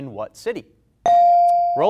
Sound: bell rings

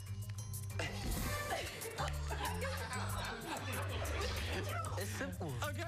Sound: laughter

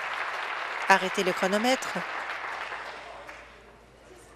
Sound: applause

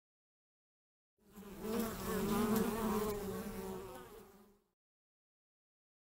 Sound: sound of bee buzz

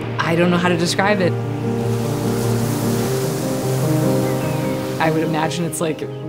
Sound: inspirational music; birds chirping

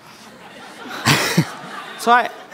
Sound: people laughing

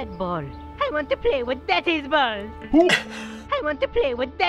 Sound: chuckling

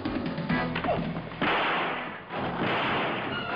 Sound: gunshots

